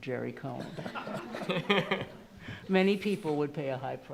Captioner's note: attendees laughing